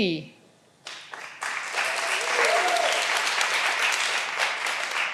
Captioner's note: all applauding